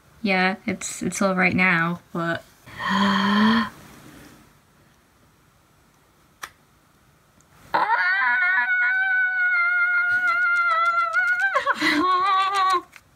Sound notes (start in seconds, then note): 2.7 gasp; 7.7 screaming